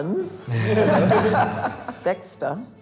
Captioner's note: group laughs